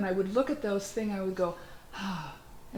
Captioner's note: sigh-exhale